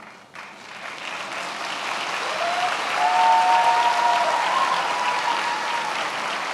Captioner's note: attendees applauding and cheering